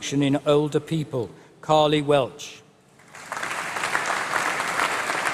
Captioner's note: applause